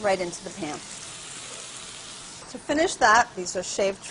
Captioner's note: sizzling